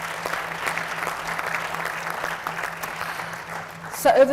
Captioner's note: audience applauds